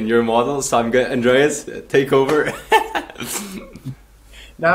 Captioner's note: laughs